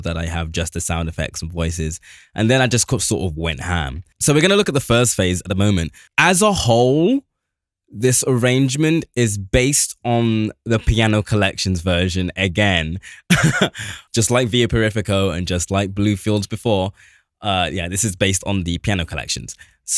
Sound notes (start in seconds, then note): 13.0 laughs